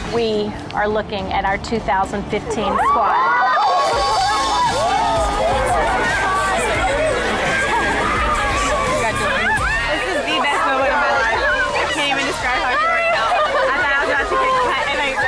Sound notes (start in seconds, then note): 3.4 cheerleaders yelling and crying